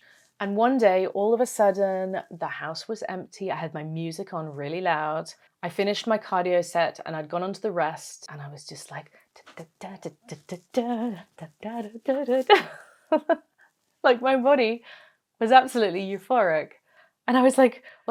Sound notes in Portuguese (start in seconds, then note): 9.4 fazendo sons felizes